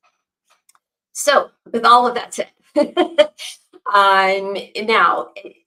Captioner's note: laughs